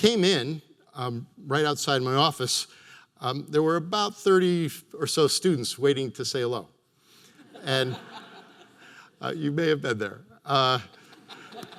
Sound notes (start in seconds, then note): 7.4 audience laughter